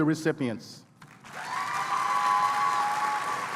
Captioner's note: applause